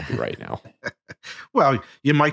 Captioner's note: chuckling